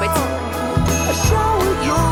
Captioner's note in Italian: campanello